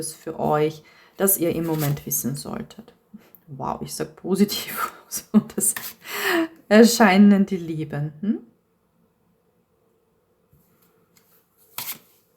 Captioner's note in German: gelächter